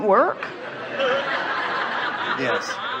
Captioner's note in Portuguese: risos do público